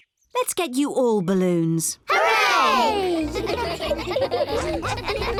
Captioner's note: giggling